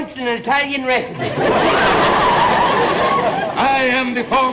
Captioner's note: audience laughter